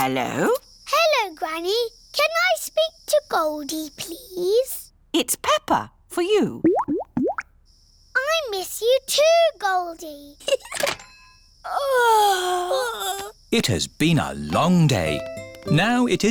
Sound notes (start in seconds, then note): 6.6 bubbling; 10.4 giggles; 11.7 both yawn